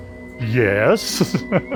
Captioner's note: laughs